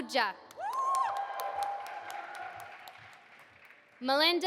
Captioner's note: audience applauding